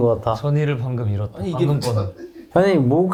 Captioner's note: throbbing